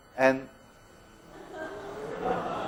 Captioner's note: students laugh